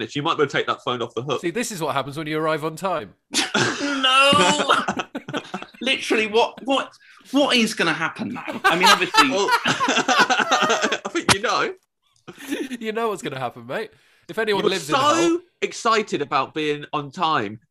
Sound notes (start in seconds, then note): 3.3 laughter; 8.3 laughter